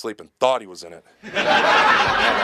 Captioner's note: audience laughing